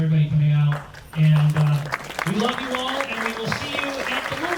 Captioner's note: audience claps